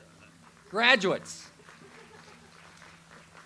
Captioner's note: audience applauds